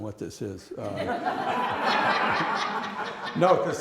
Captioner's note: laughter